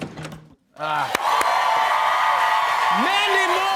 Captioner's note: cheers and applause